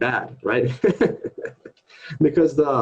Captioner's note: laughter